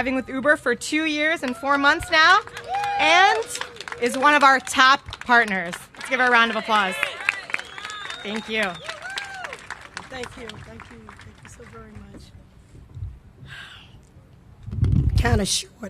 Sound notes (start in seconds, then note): 2.5 cheers and applause; 8.0 applause